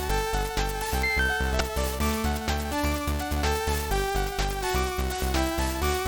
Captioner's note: ding-dong